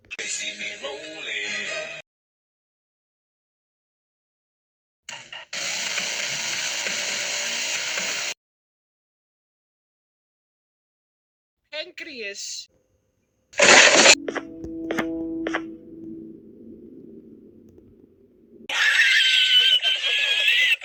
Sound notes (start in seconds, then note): 13.6 rip chair